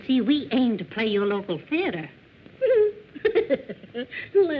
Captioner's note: laughter